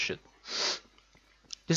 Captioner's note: sniff